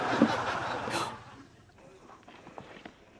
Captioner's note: laughter; gasps